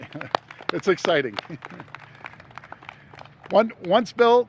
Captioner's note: applause